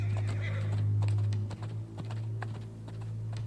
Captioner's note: horse whinnies